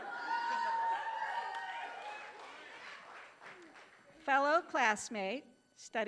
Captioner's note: laughing, applause